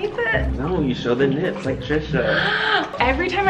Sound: gasps

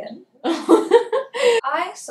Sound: laughing

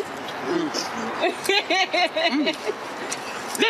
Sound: giggle

